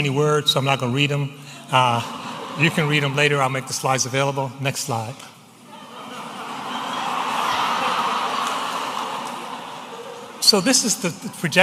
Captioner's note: audience laughing